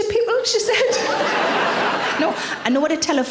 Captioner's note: audience laughing